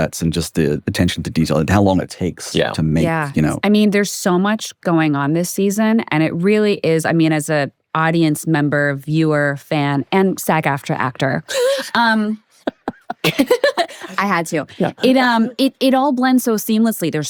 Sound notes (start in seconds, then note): 12.5 group laughing